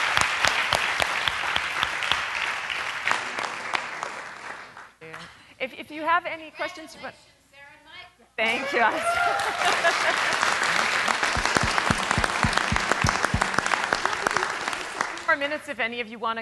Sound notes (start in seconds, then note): 9.0 applause